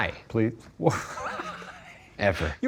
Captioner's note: laughing